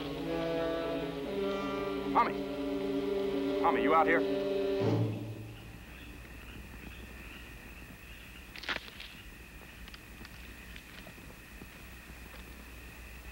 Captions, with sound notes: Tommy. Tommy, you out here? (twigs breaking)